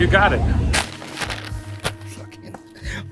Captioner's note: bag rustles